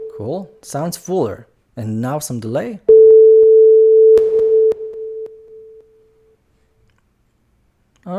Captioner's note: beep with reverb and delay